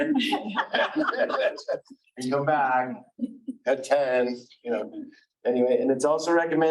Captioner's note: everyone laughing